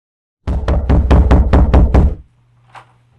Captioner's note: pounding on door